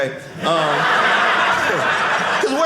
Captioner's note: audience laughing